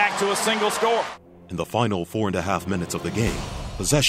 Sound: voiceover

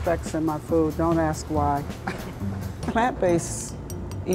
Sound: laughs

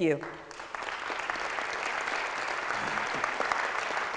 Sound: audience clapping

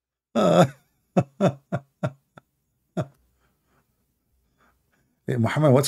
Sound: Ketawa

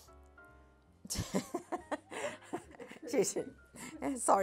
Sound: laughing

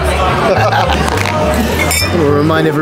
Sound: laughing

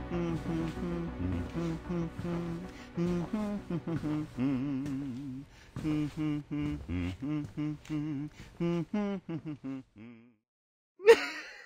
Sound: humming

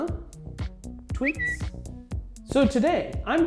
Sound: upbeat music; whistles

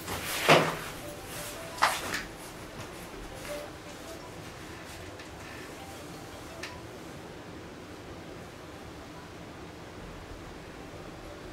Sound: phone ringing

